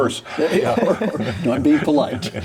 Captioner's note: people laughing